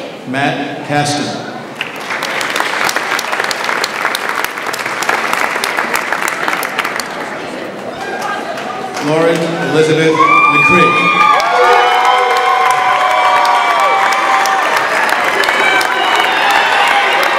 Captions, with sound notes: Matt Cassinov. (audience applauds) Lauren Elizabeth McCree. (audience applauds and cheers)